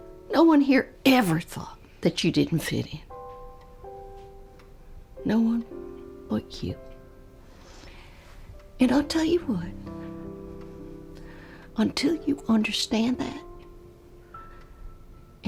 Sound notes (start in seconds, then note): none